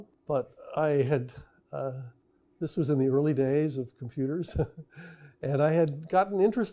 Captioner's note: laughs